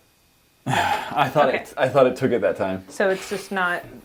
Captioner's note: sigh